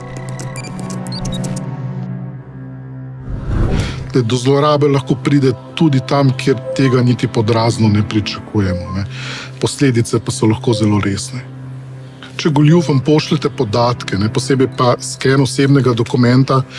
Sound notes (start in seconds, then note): 0.2 suspenseful music; 3.2 whoosh